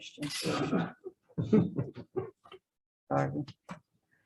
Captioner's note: man laughs